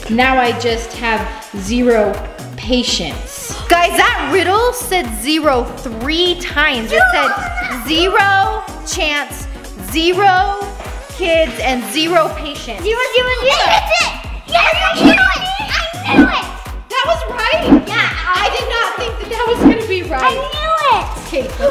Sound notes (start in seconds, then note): 6.9 exclaiming; 13.4 yells